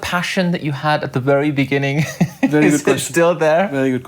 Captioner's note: laughing